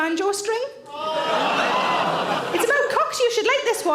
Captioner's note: audience laughs